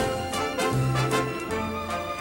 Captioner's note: imitates carol channing